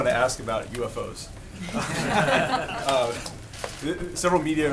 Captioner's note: laughter